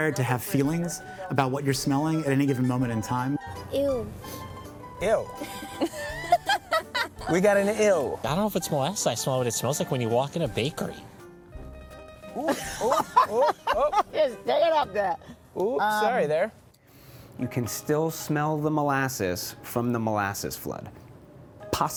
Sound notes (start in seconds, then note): 5.4 laughing; 12.3 laughing